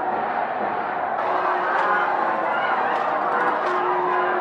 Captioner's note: crowds yelling